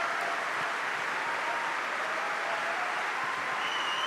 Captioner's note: cheering